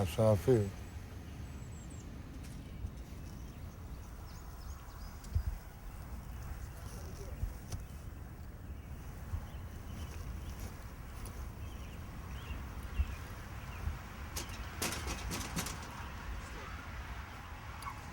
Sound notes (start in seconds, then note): 14.3 knocking